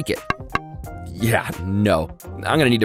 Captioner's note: egg thuds